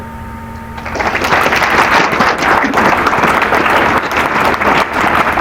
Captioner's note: applause